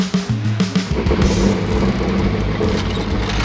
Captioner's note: engine revving; metal wheels squeaking